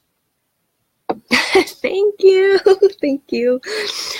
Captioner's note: laughs